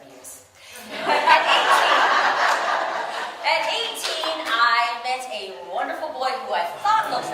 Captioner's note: audience: laughter